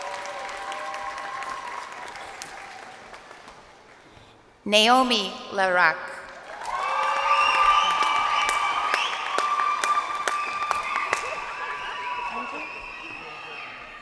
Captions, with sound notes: Lela LaRock. (crowd applauding) Naomi LaRock. (crowd cheering)